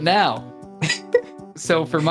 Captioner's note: chuckling